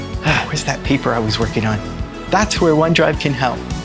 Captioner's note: sigh